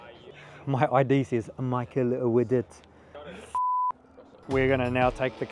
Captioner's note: beep